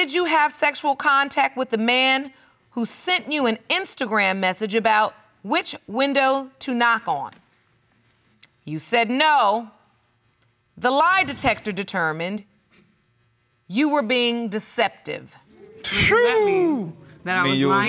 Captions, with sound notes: "sexual contact with the man who sent you "an Instagram message about which window to knock on?" You said "no". The lie detector determined you were being deceptive. What does that mean? (EXCLAIMS) That I was lying? That means you was lying?